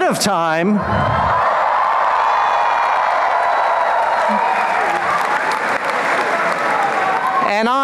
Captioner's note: applause and cheering